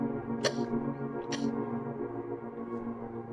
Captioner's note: Sharon coughs